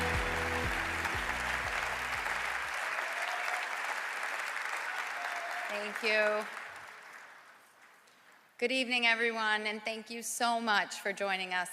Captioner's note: applause